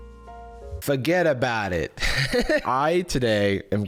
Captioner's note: giggles